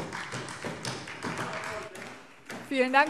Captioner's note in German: Beifall SPD